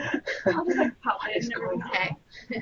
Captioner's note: laughter